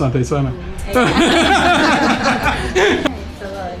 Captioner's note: laughter